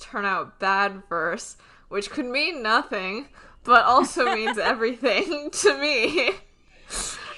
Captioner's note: laughs